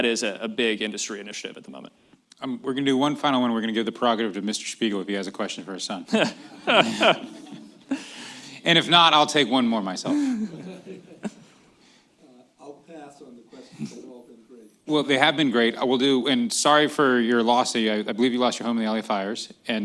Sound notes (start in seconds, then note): 6.1 laughter